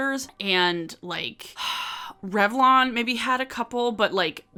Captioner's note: sighs